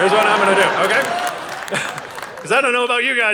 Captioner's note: audience laughing and cheering